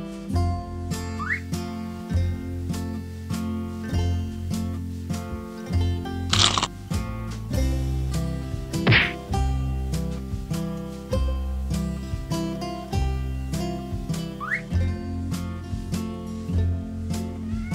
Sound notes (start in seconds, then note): 8.8 smack!!